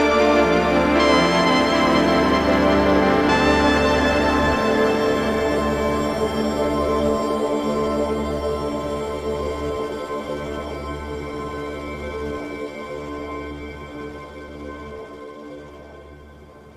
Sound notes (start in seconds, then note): none